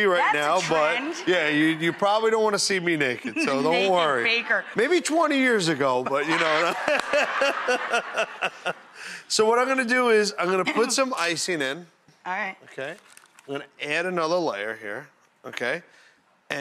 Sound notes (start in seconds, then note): 3.9 laughs; 6.0 laughing